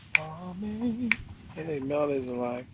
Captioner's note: finger snaps rhythmically